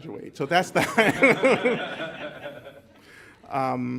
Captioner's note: laughter